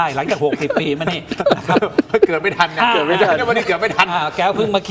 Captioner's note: laughter